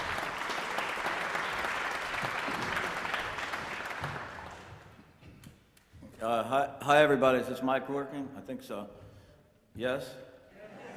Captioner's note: applause